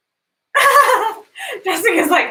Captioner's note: laughs